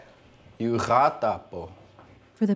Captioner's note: speaking Lakota